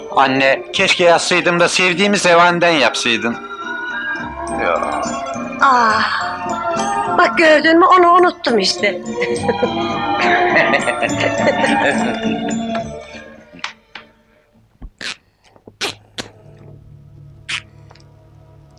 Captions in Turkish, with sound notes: Anne keşke yazsaydın da sevdiğimiz revaniden yapsaydın! - Yoo! - Aaa! Bak gördün mü onu unuttum işte! [Keyifli kahkahalar]